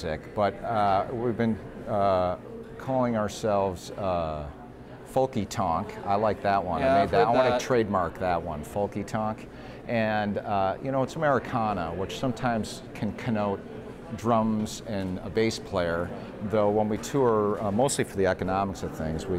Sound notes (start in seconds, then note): none